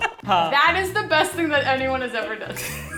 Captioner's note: speaking in Hindi